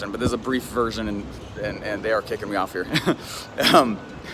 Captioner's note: laughing